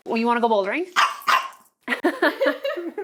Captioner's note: dog barks; laughing